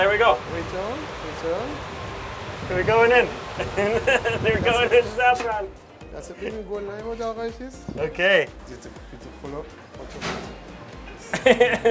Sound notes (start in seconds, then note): 0.0 machine blowing air; 3.6 laughs; 10.3 machine blowing air; 11.2 laughter